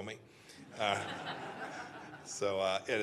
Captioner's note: laughter